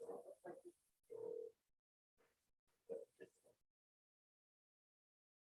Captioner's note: phone ringing